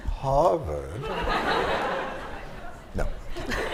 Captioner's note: laughter